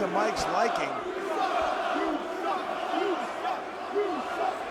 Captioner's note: crowd chanting